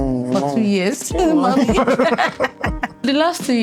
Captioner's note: laughing